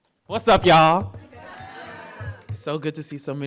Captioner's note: audience laughing